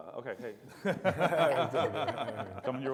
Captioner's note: all laughs